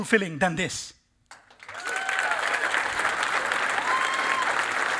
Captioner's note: cheering and applause